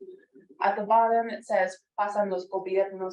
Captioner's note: speaking foreign language